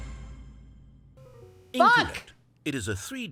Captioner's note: orchestra hit; "wrong" sound